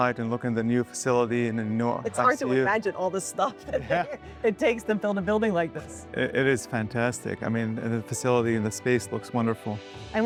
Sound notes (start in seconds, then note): 3.5 laughing